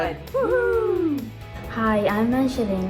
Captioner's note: both whooping